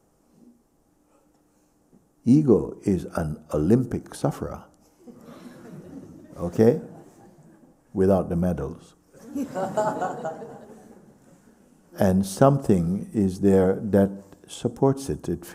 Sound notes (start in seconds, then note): 9.1 laughter